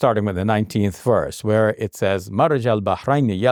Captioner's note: speaks in Arabic